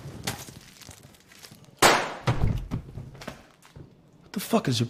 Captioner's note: gunshot firing